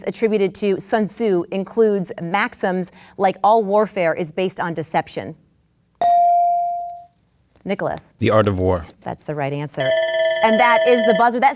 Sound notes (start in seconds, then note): 6.0 bell dings; 9.8 buzzer sounds